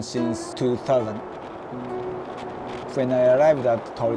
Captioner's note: roaring wind